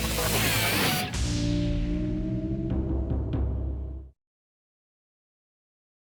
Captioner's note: logo whooshing; dramatic drum music